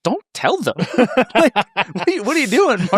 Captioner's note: laugh